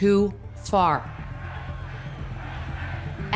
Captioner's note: crowd chanting